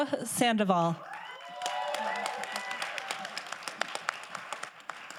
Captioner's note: crowd applauding